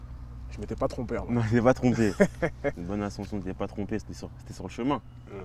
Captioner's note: laughs